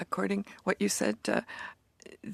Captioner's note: speaking in French